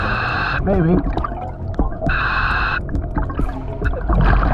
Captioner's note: mask hissing